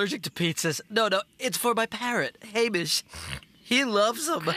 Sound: sniff

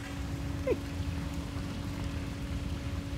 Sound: water splashing

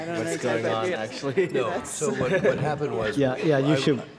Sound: laughter

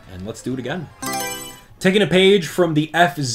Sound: Mario Selection Sound

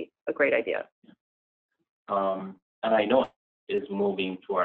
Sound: audio out

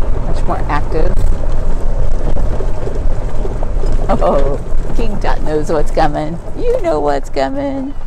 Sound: cart noise

